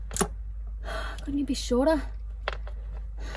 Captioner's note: sighs